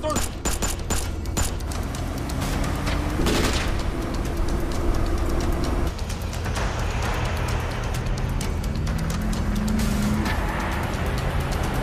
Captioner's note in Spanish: Disparos